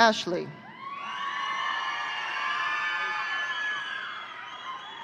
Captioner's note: audience cheering